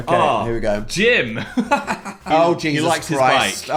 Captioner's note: laughing